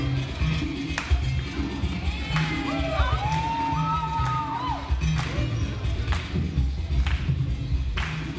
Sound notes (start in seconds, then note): 0.9 clapping; 2.3 audience cheers